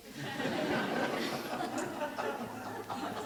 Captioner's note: laughter